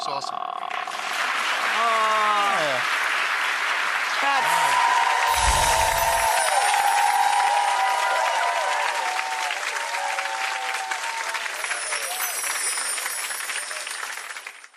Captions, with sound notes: It looks awesome. (clapping) That's ... (cheering and clapping)